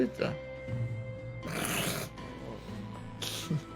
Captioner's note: chuckles